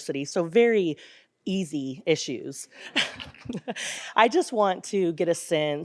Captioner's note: laughs; audience laughs